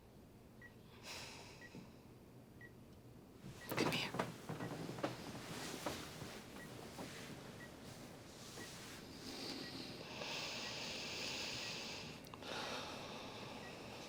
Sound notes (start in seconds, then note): 1.4 sighs; 9.2 both sighing over beeping monitors